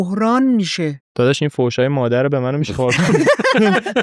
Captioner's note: laughs